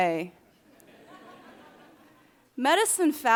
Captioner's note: audience laughing